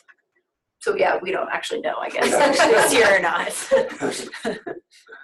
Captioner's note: laughs